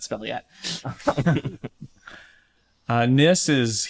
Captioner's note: laughter